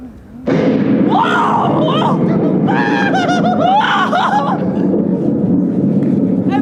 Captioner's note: thunder